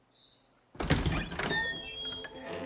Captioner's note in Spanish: Sonido al abrir la puerta